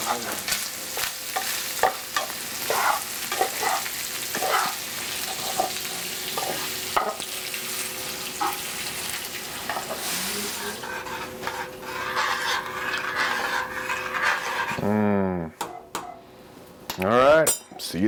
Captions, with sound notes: (spatula scraping) (spoon scraping) Mm, all right see you this evening.